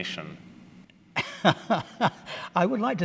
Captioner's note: laughter